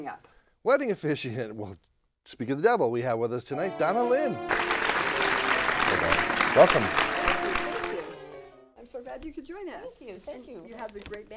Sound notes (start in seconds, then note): 3.5 instrumental Music; 3.7 applause